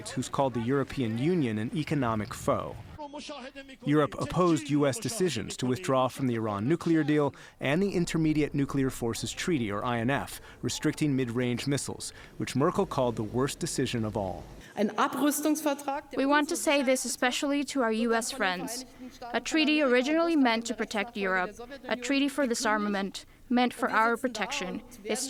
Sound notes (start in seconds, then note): 15.3 through translator